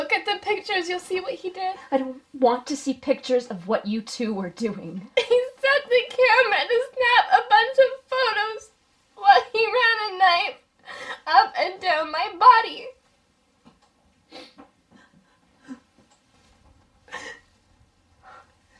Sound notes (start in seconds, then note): 14.2 sniffling; 17.0 sobbing